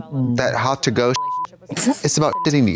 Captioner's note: beep